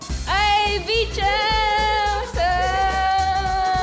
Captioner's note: yelling